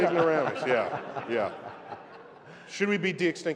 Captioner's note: laughter